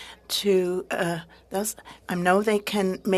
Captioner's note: speaking French